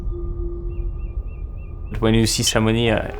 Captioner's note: birds chirp